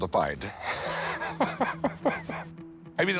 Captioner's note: laughs